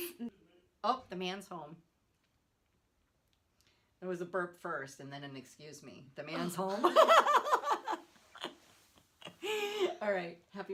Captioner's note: laughing